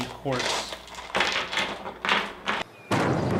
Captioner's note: kayalar clattering